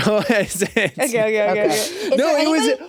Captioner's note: laughs